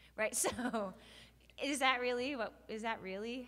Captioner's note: laughs